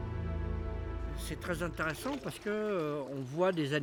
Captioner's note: speaking French